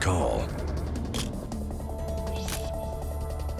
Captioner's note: camera shutter click